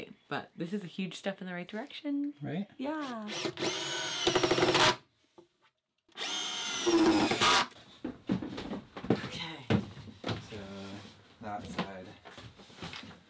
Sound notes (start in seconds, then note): 4.1 driller buzzing